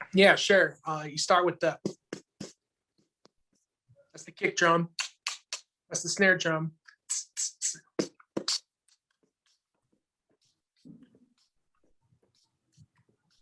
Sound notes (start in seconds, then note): 1.8 beat boxes; 6.8 beat boxes